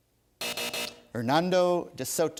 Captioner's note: buzzer